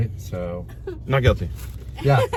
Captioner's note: laughs